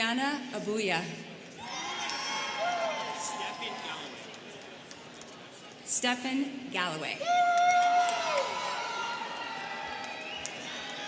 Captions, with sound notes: Breonna Abuya. (students cheering) Stephan Galloway. (students cheering)